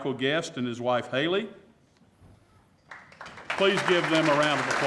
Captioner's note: applause